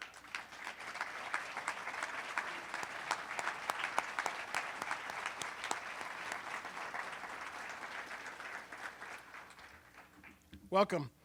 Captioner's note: applause